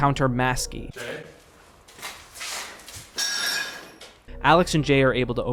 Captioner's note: footsteps